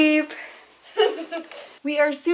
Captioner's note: laughs